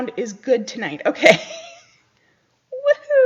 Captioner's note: laughs